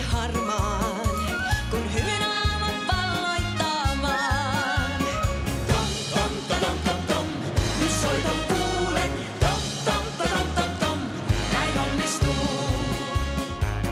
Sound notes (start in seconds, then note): none